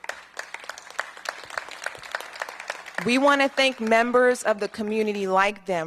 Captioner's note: applause